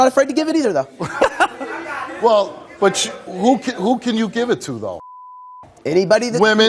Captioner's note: beep